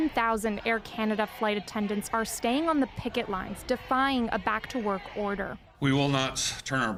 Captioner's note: chanting